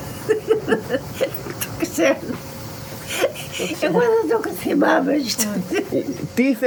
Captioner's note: laughs